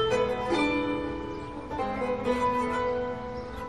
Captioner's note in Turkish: none